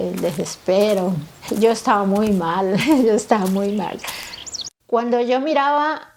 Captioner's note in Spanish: Repite con voz entrecortada